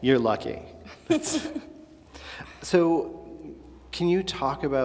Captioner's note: laughs